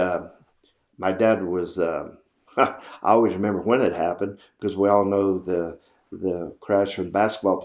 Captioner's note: laughs